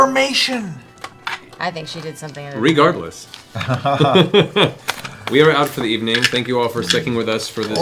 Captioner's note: laugh